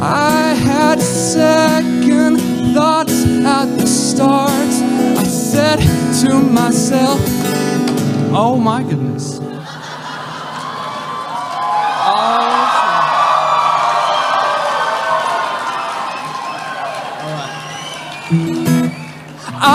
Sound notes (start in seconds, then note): 9.4 laughter; 12.9 cheering